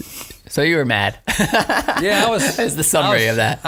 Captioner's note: laughing